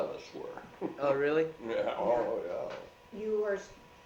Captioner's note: chuckles